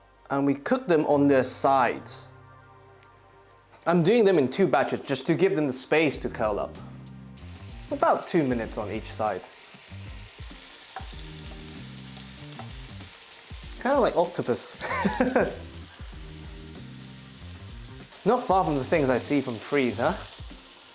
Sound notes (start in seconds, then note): 10.4 sizzling sound; 14.8 laughs